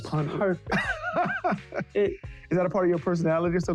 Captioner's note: laughing